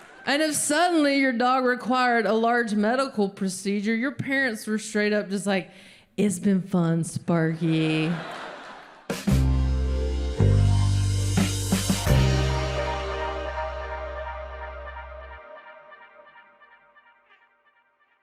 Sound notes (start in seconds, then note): 7.6 audience laughing; 9.1 smooth music